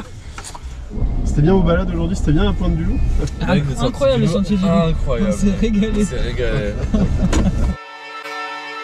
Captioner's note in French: rires